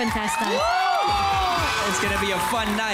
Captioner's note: crowd screams